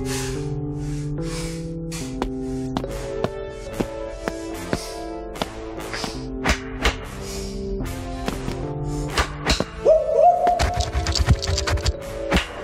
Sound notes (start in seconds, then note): 0.3 dramatic music; 6.6 bones clap; 10.7 scorpions scurry; 12.4 bones clap